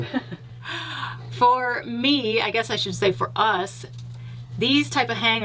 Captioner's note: chuckles